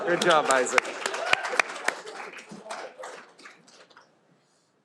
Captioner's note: audience applauding